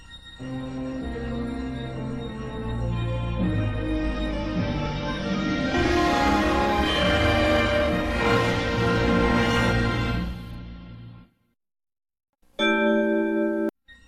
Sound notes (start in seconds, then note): 5.5 digitally-remastered chime plays; 12.6 chime plays on one note